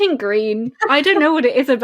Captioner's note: laughs